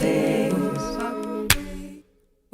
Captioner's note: clap